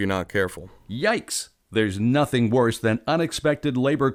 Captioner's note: voiceover